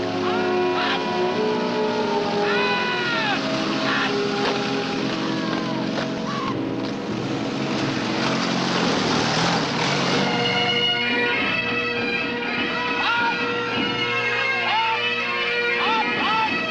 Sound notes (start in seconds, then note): 11.2 bagpipes playing; 11.2 shouting